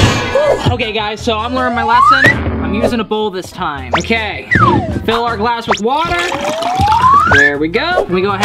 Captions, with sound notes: Okay guys, so I'm wearing my last one. I'm using a bowl this time. Okay, fill our glass with water. (pouring) There we go.